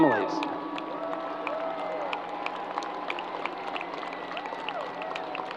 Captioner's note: crowd applause